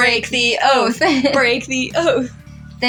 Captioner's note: laugh